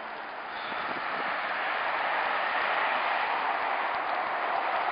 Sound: traffic whirring

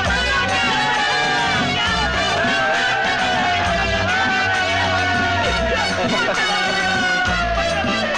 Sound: shouting

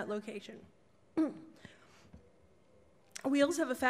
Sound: clears throat

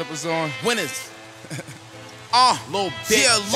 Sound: laughs

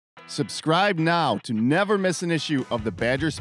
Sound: voiceover

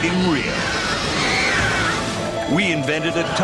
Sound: people screaming

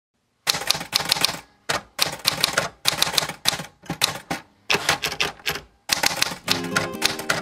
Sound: sound of typing

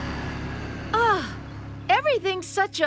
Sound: Wendy Sighs

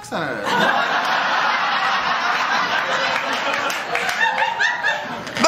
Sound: laughter

